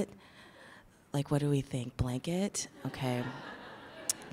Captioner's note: laughs in the audience